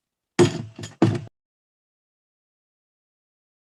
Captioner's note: gavel bangs